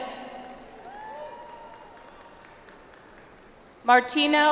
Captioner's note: audience applauds